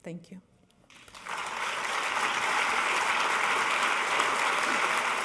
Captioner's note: audience applauding